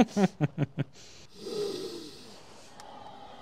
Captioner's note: sniff